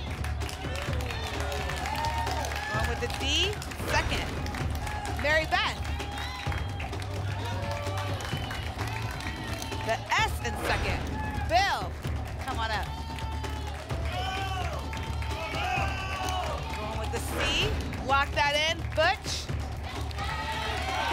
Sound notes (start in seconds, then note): 0.2 applause and cheering; 6.8 applause and cheering cont; 12.6 audience shouting letters